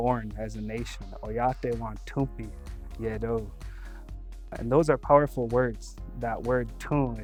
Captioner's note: speaking Dakota